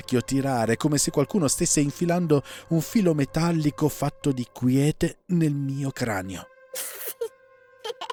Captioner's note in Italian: risate